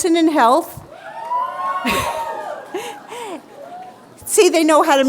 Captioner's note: cheering